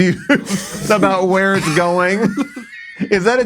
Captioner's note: laughs